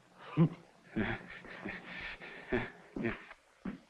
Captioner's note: Carl chuckling